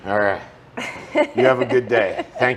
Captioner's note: laughs